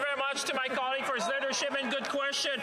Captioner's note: some Applause